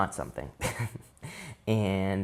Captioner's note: chuckles